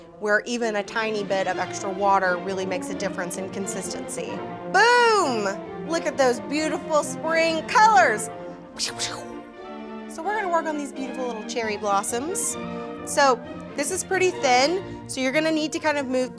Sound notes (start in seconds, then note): 8.8 making shooting sound effects